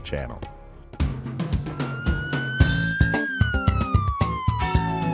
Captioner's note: a siren wails